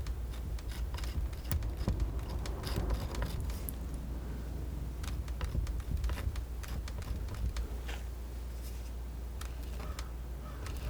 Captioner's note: scissors snipping